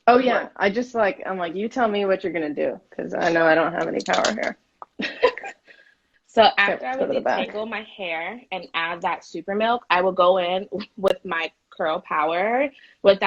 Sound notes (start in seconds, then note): 5.1 laughing